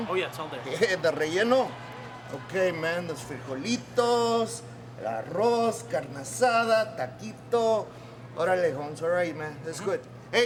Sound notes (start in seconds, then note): 1.2 Guerrero speaking Spanish; 5.7 speaking Spanish